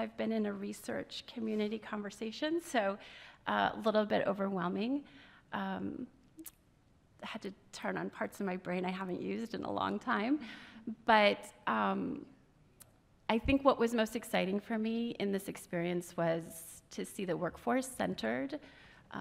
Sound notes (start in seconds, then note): none